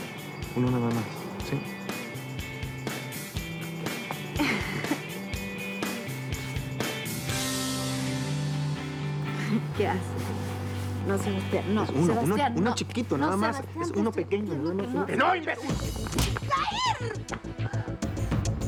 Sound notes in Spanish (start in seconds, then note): 6.0 Risas